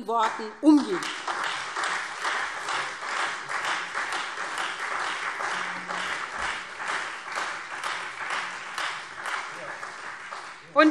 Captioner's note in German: Beifall SPD und Freie Demokraten